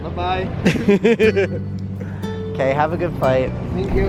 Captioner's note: laughs